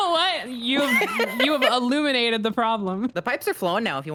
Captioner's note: laughs